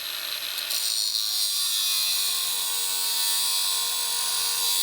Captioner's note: saw grinding